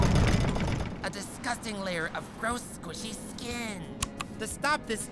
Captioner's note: whispering